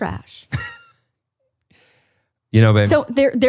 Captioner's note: laughs